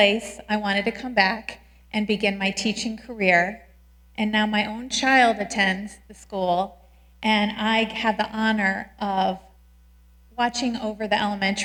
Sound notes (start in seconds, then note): none